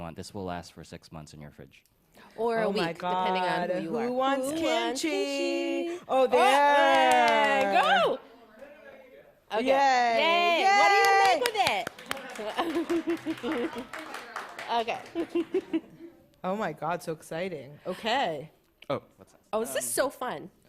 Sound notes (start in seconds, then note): 6.8 claps; 10.8 applause; 10.8 claps